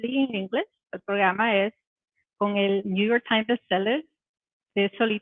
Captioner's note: speaking Spanish